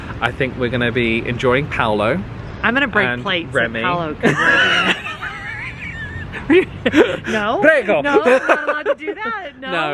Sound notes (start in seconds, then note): 4.2 both laughing